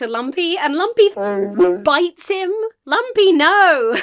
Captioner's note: Wookie howls